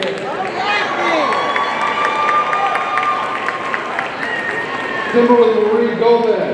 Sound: audience cheering and applauding

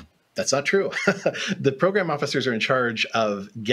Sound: laughs

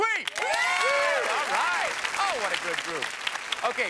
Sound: applause

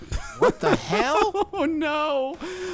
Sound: laughing

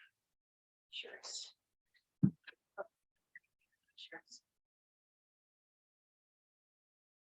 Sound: faint chattering from Board members

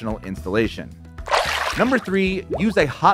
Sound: water splashing

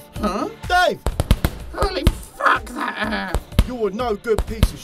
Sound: Punching sounds while SOCK SOCK cries out in pain

